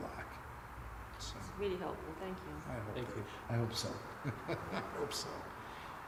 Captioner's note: laugh